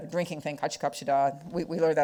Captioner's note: speaking foreign language